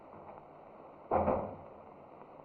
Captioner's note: door closes